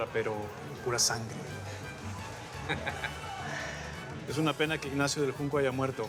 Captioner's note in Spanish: risas